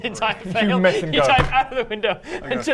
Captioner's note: splat